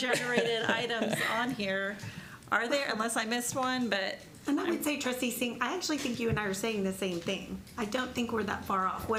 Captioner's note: laughter